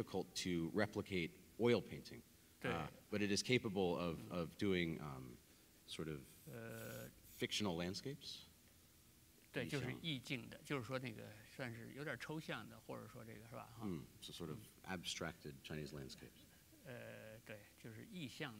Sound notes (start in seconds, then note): 9.5 speaking in Chinese; 17.5 speaking in Chinese